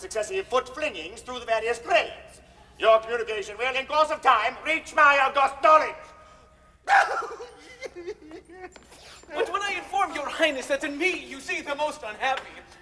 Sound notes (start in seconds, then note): 6.8 weeps